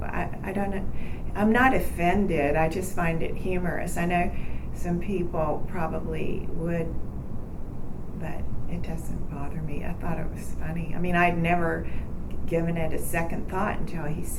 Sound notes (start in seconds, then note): none